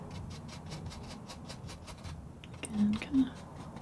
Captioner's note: scratching